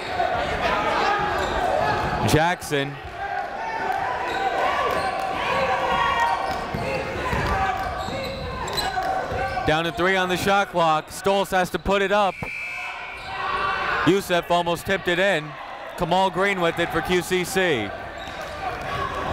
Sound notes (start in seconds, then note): 3.4 chatter